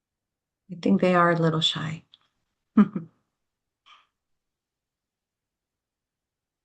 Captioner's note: chuckles